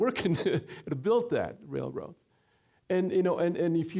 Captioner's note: chuckling